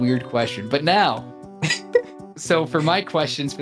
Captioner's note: chuckling